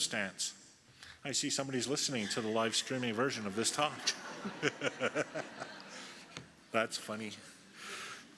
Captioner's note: laughter